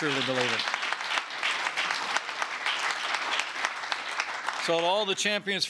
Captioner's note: applause